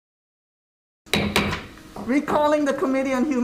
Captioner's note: gavel strikes sounding block